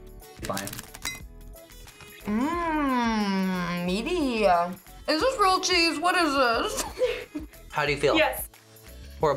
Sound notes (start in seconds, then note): 6.7 laughs